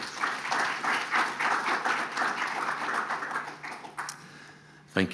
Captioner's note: audience applauding